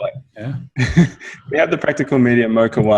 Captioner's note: laughs